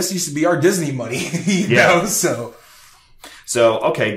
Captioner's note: chuckles